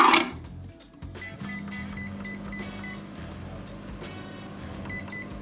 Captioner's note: microwave beeping